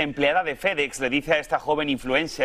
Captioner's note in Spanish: habla en ingés